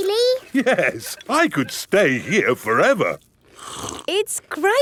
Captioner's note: slurps